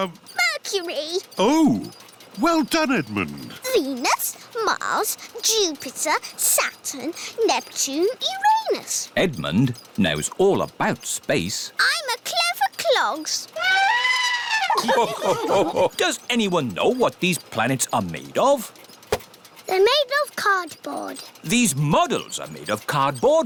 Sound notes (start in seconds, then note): 13.7 trumpets; 14.0 all laugh